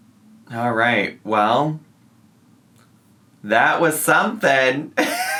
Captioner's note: laughs